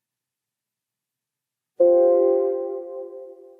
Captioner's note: computer tone